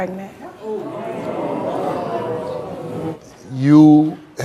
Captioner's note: audience oohs